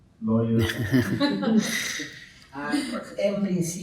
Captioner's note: speaking in Spanish; laughing; speaking in Spanish